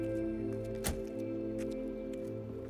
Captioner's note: clunk; gentle music